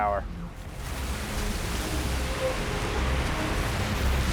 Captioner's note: water splashing